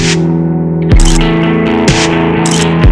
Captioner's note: photo click